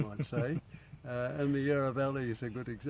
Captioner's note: laughing